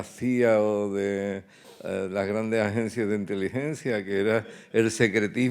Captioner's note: speaking in Spanish